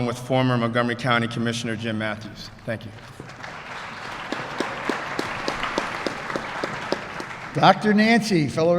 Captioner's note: applause